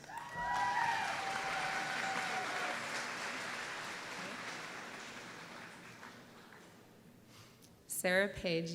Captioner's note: applause